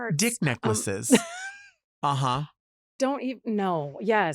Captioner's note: laughs